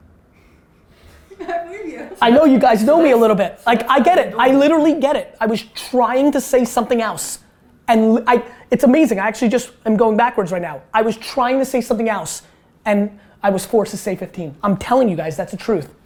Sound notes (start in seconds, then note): 0.4 laughing